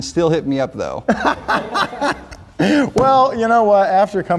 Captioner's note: laughing